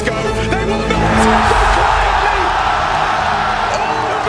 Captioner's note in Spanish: el público vitorea